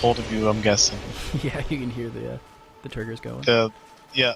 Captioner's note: laughs